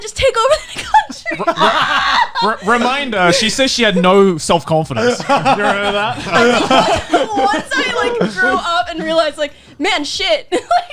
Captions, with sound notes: Just take over the country. - Reminder she says she had no self-confidence. You heard that. (laughing) - Once like I grew up and realize like, man shit!